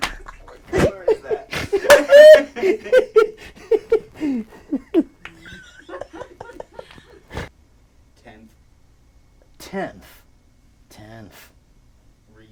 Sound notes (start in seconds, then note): 2.1 clapping; 2.1 laughing